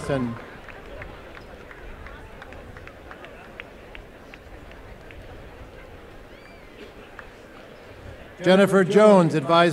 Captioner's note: applause